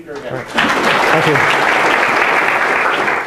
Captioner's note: clapping